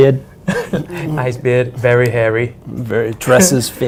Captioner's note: boston accent